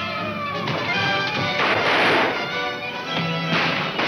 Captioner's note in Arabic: اطلاق النار بالبنادق